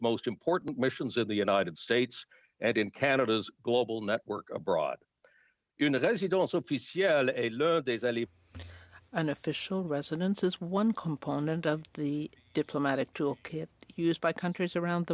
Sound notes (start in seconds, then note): 11.5 speaking French